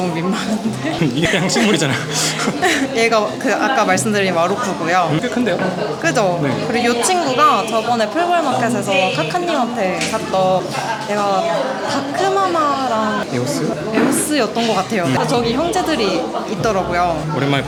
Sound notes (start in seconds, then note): 0.3 laughs